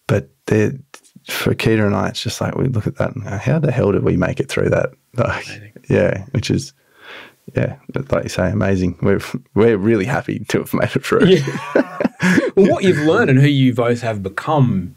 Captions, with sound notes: but for Keita and I, it's just like, we look at that and how the hell did we make it through that? Yeah, which is, yeah, but like you say, amazing. We're really happy to have made it through. (laughing) - What you've learned and who you both have become